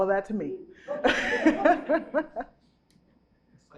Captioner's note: chuckles